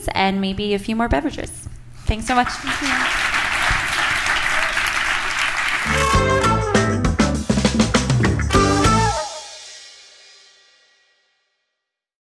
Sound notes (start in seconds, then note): 2.2 applause